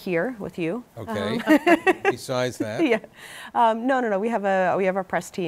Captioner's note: laughter